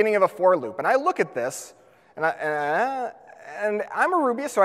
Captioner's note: groans